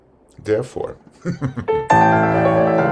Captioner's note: laughs